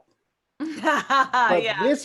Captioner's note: laughs